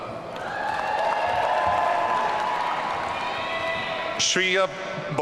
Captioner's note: audience cheering